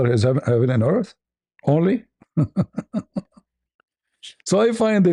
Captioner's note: ketawa